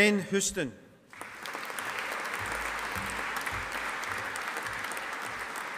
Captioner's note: audience applauding